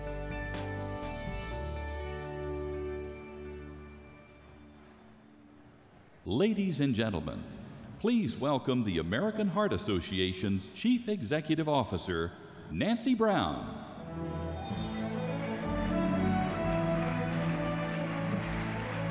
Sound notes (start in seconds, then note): 6.5 voiceover; 14.7 audience applauding